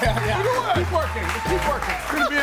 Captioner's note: audience applauds and cheers